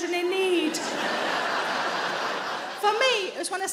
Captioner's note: audience laughing